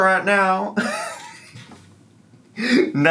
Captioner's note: laughs